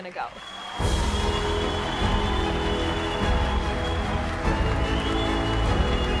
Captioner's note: crowd cheering; triumphant music